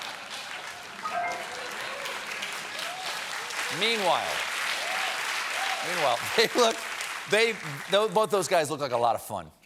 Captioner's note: cheers and applause; laughter